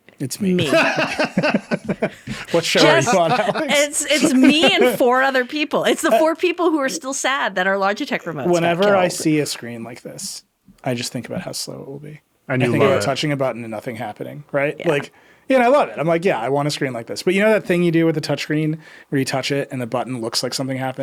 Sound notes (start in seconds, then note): 0.6 laughing